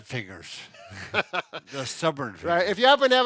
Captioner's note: laughs